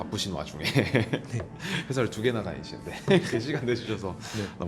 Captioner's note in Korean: 웃음